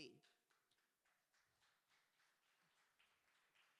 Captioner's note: applause